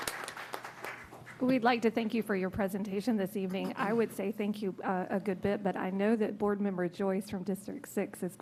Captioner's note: applause